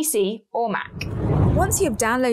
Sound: air whooshes

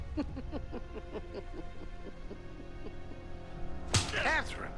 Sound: sinister laugh

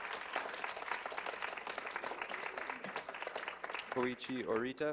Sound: clapping

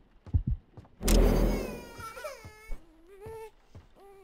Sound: cry

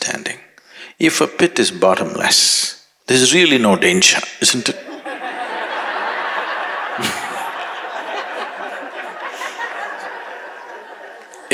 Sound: laughter

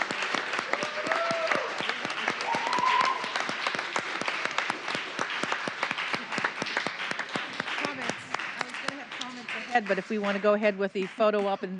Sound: applause

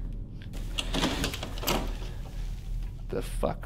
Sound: doorknob rattling

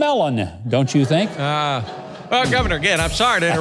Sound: audience laughs

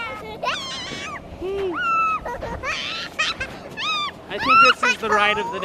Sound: screeching in joy

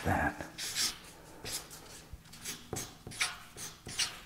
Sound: marker squeaking

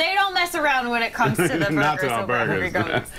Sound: laughter

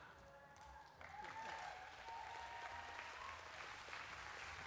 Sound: whoops and applause

